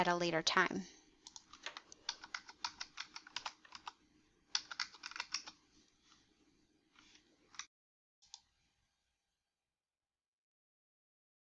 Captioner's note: typing on keyboard